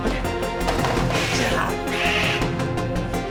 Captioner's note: hissing